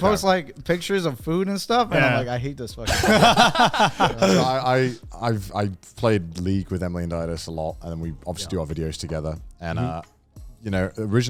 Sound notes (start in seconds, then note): 2.8 men laugh